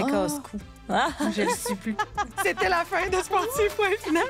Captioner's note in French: rires